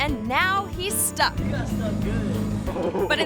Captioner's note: person laughs